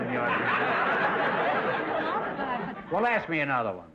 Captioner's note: audience laughter